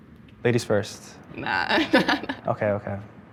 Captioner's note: laughs